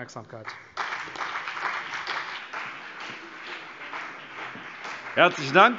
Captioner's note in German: Beifall CDU